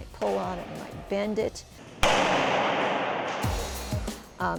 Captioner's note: smack